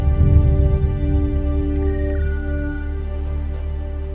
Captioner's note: beeping